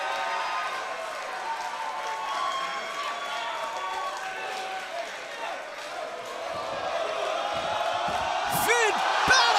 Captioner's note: crowd cheering